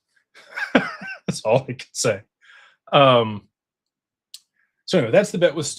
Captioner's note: laughter